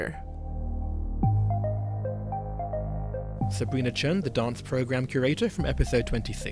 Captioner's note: voiceover